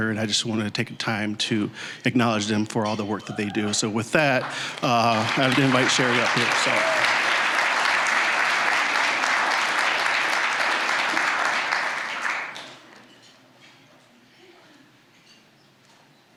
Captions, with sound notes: and I just wanted to take a time to acknowledge them for all the work that they do. So with that, I'd invite Cheri up here, so. (applause, cheering) (applause)